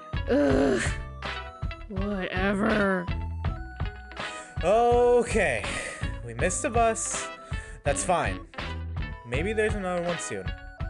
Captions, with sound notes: uughh whatever… *inhales* OKAY! We missed the bus, that's FINE! Maybe there’s another one soon